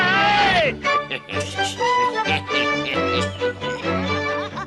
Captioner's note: laughs hysterically; weasels snicker; Toad laughs